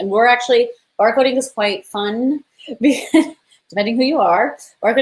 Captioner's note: laughs